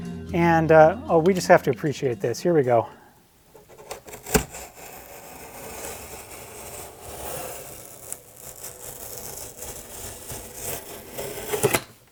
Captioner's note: box tape tears